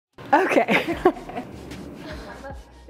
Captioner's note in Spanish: risa